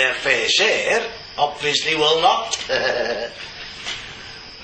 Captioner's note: laughs